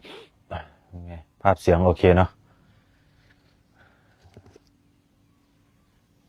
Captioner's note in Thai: เสียงสูดหายใจ